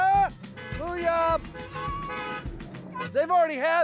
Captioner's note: cars honking